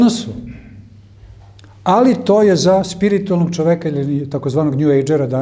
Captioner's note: coughs